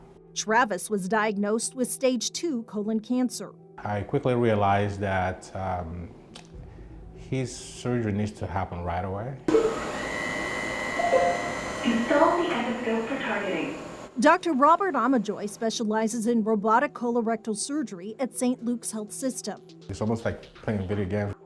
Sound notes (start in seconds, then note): 9.5 tool whirring; 11.6 automated Voice